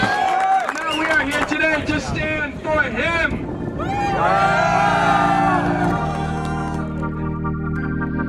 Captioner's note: cheers, music